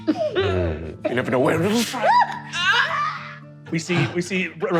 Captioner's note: shrieking